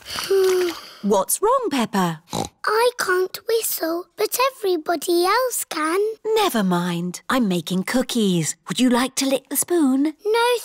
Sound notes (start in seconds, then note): 0.0 sighs; 2.2 snorts